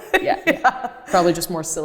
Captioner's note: laughs